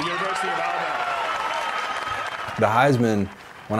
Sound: applause

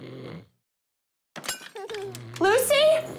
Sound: snoring; glass shattering; baby giggling

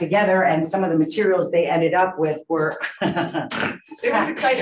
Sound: laughs

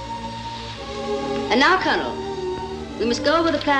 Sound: none

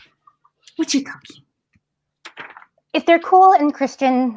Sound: speaking in foreign language

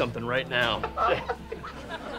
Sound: laughing

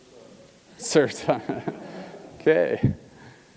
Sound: laugh

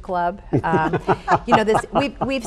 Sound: group laughs

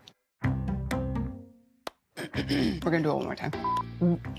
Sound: clears throat

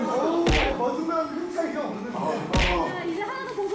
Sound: boom

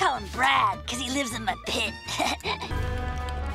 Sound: laughing

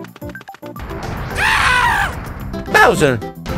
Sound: Mario screams

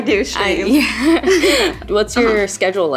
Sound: laughing

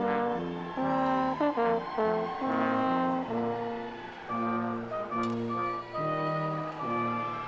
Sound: audience cheering; stately music continues

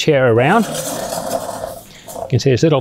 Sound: chair scraping

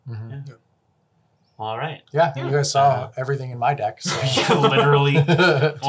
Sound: laughs

